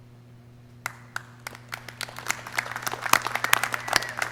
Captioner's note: clapping